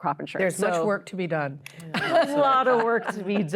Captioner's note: laughter